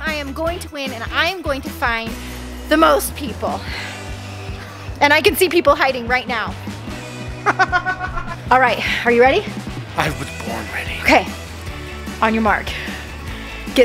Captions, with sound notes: I am going to win, and I am going to find the most people. And I can see people hiding right now. (laughing) Alright, are you ready? - I was born ready. - Okay. On your mark, get set--